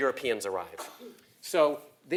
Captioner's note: cough